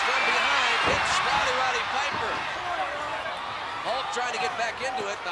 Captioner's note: blows thudding